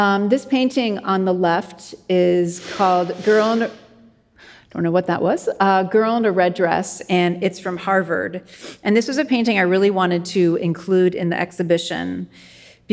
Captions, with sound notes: This painting on the left is called Girl in-- (person sneezes) I don't know what that was. "Girl in a Red Dress". And it's from Harvard. And this was a painting I really wanted to include in the exhibition